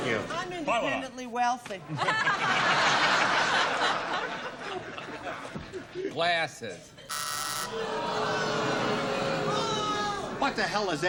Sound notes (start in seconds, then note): 0.0 booing; 1.8 laughter; 7.0 buzzer; 7.6 booing